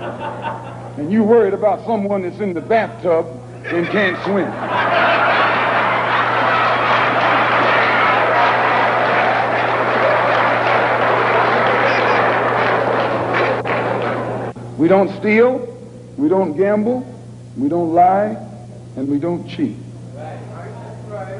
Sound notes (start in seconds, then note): 3.6 laughter and applause